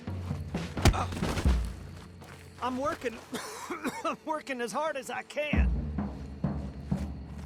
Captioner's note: coughs